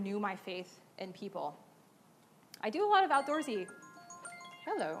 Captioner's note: phone rings